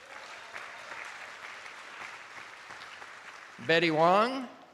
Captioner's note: attendees applauding